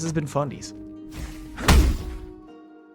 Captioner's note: swoosh, Thud